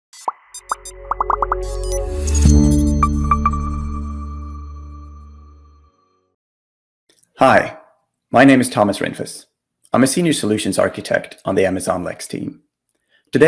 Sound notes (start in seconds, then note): 0.2 graphics popping; 0.2 graphics beeping; 2.5 bright music; 2.5 logo chimes